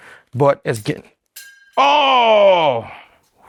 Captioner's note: blade clangs